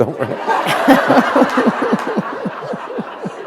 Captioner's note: laughter